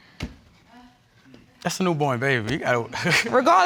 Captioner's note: chuckles